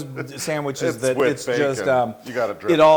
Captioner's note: laugh